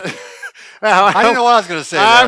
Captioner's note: both laugh